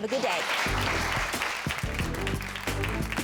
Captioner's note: audience clapping